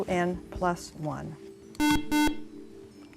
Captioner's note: buzzer